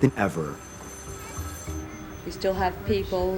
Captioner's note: phones ringing